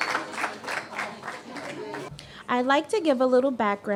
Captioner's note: applause